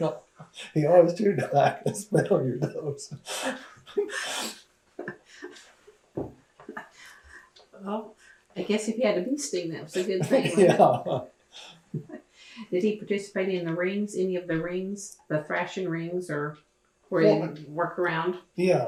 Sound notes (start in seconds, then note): 2.3 laughs; 9.9 laughter; 11.9 laughs